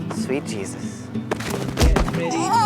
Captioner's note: thudding blow